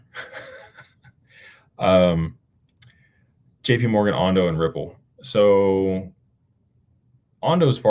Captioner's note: laughter